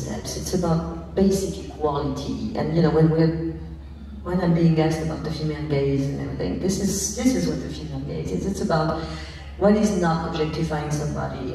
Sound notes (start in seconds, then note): none